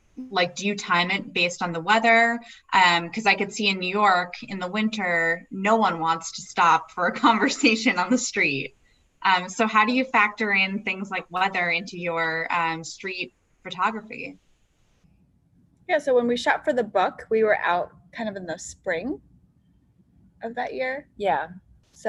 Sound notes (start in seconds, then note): 7.0 laughs